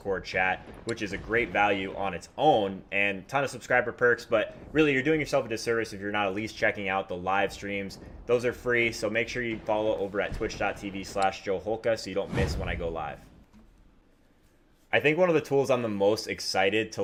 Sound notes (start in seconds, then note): 11.2 thunder booms; 12.2 air whooshes